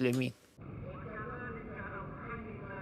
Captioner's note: man speaking into a microphone